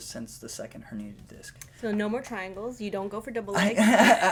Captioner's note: laughter